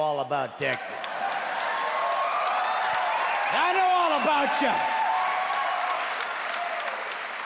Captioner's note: cheering and clapping